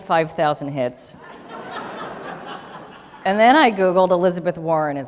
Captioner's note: laughter